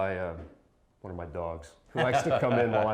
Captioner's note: laughs